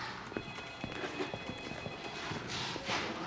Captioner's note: phone ringing